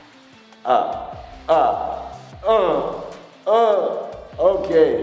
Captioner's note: pain Sounds